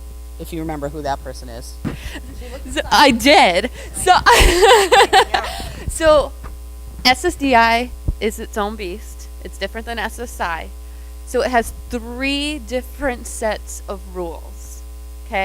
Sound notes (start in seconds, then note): 4.5 laughs